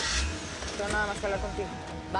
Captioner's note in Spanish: Ruido al prender el motor